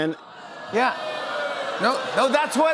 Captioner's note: crowd boos